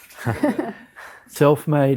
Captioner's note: everyone chuckling